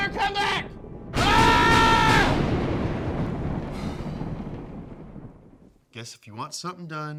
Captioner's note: lightening striking; screaming